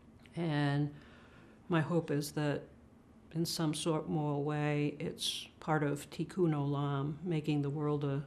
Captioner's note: hebrew